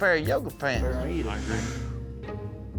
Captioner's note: sucking in